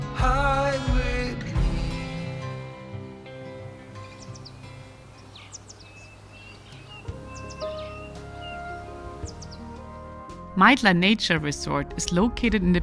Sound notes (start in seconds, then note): 3.2 birds chirping; 4.3 soft music